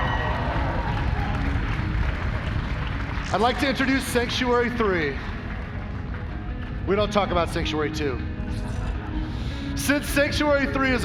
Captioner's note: cheers and applause